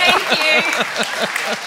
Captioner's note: laughter